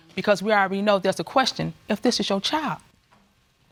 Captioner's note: none